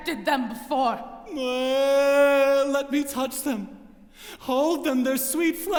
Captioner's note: moans